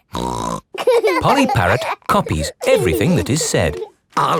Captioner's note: laughing